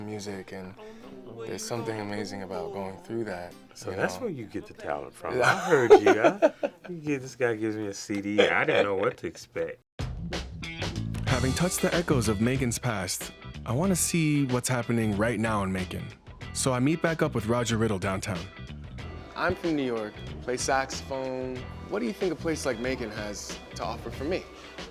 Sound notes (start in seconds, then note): 5.4 laughs